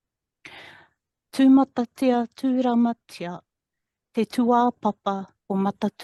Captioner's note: speaking in foreign language